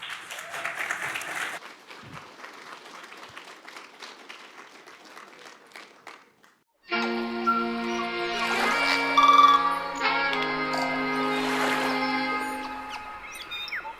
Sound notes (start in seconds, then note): 0.0 audience applause; 6.9 upbeat music with sounds of nature